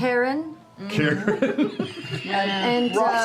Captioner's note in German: lacht